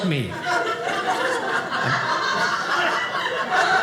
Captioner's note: audience laughing